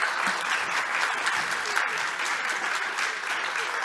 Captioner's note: applause